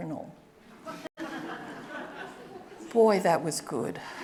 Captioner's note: audience laughing